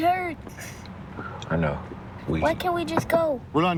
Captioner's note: knocking